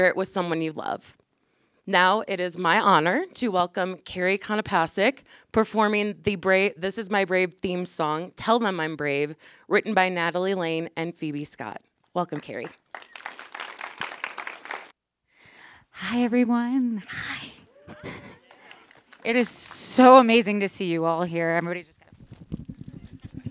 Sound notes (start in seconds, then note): 12.3 applause